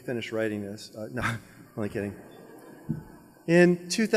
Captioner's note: laughs; audience members laugh